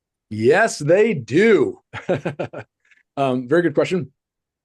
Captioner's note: chuckles